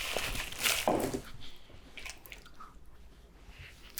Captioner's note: bowl thuds